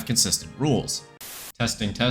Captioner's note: static